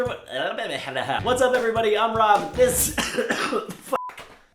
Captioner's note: cough cough